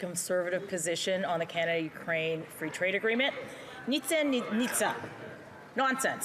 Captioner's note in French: voix de l'interprète